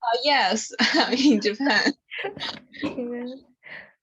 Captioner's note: laughs